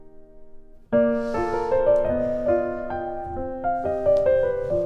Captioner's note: exhales